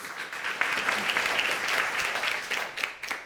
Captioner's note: audience applauding